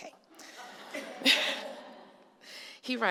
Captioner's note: laughter